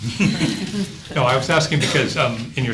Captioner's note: laughing